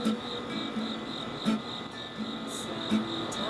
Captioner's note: crickets